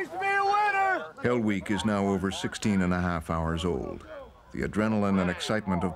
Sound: voiceover

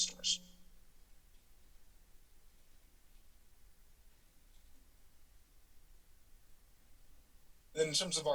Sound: silence

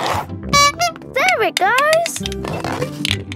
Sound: honking

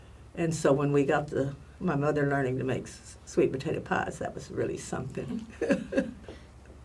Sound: laugh

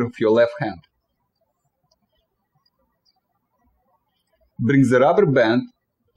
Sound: birds chirping

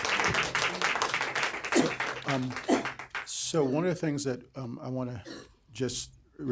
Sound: applause

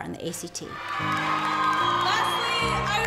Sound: cheers

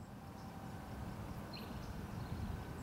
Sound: birds chirping

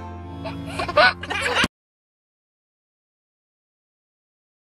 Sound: laughing

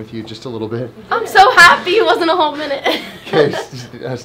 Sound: laughing

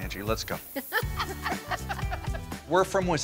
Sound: laughing

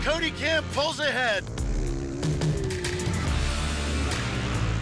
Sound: engines revving

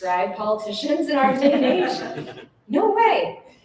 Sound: laughter

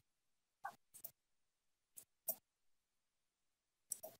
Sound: mouse clicking

